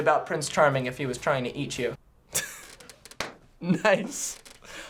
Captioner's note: scoffing